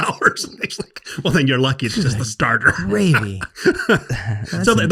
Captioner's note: laughs